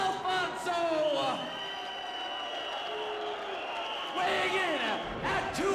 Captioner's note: whistle blowing